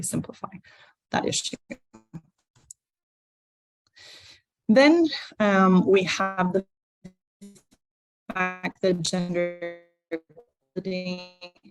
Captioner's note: distortion